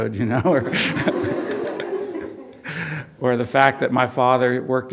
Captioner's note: audience laughs